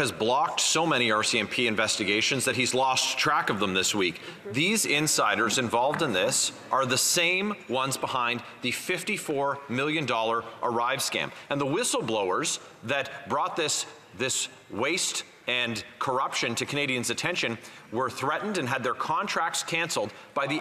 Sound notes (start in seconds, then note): 3.7 speaking French